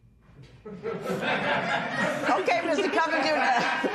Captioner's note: laughter